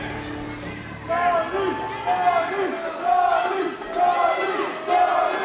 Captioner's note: crowd chanting, " !"